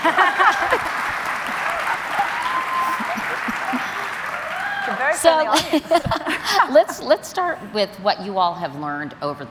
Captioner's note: applause